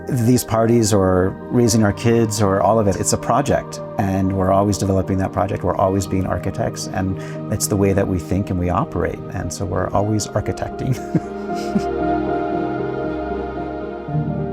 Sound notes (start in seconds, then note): 10.9 chuckles; 11.8 calm music